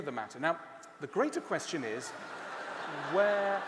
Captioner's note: laughter